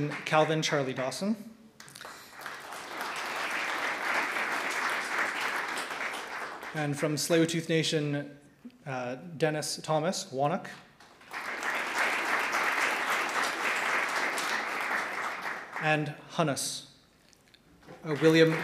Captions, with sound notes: Ts'kanchtn-Calvin Charlie-Dawson (audience clapping) and from the Tsleil-Waututh Nation, Dennis Thomas-Whonoak (audience clapping) and Hunas-William George Thomas.